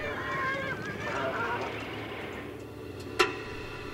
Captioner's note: horses whinnying